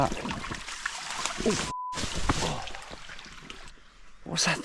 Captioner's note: beep